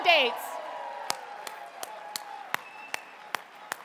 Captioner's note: audience cheering